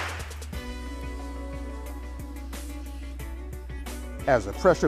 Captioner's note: popping sound